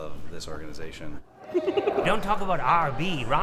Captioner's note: chuckles